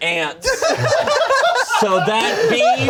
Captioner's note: everyone laughing